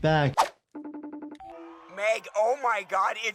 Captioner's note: phone ringing